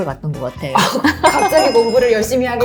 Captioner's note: sounds of laughter